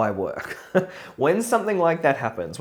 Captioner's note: laughs